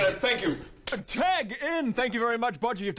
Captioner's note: slap